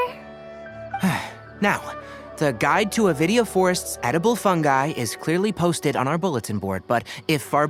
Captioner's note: sigh